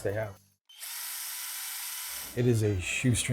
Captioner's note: drill buzzing